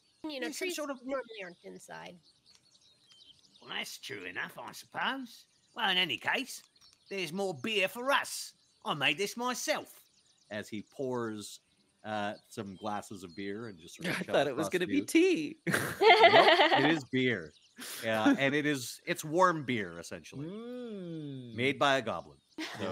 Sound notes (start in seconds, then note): 15.7 laughs